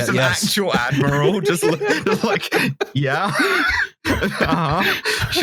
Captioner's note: laughter